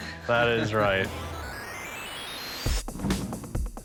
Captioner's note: video game noises